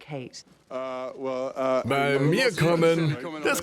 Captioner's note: stammers